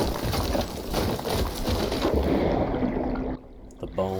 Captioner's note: splash! Bubbling underwater sounds